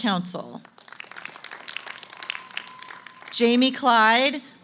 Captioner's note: applause